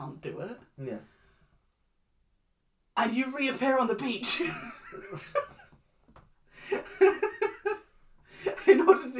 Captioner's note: laughs